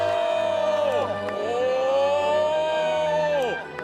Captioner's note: exclaiming